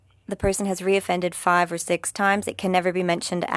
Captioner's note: speaking French